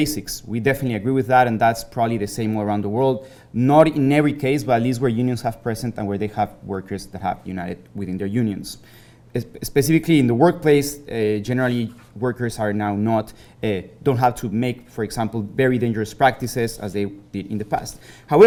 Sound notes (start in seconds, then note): none